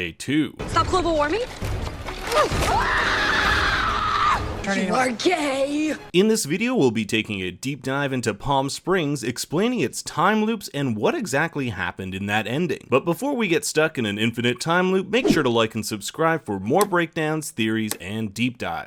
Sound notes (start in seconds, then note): 2.3 screams